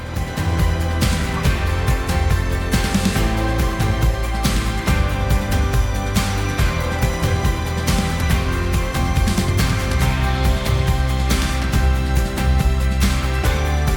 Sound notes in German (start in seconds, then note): 3.2 Beifall